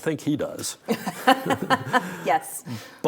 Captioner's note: laughing